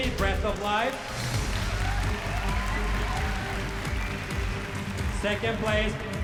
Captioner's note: cheering